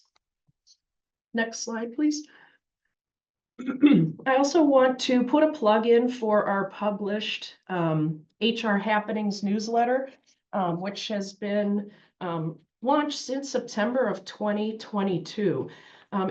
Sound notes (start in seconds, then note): 3.6 cough